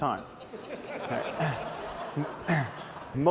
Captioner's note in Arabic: ضحك